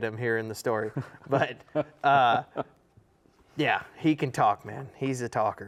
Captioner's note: laughs